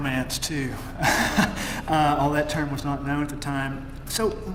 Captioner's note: laugh